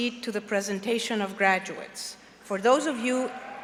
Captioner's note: applause